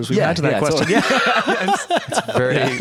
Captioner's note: laughter